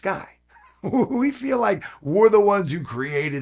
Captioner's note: chuckling